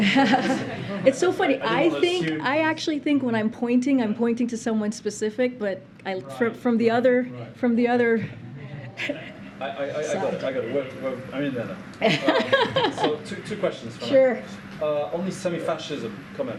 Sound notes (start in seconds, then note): 12.0 laughter